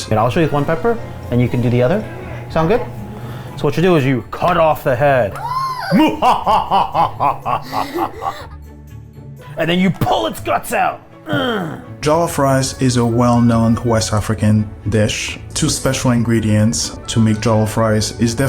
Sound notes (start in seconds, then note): 5.3 shrieks; 5.4 laughs menacingly; 11.3 growls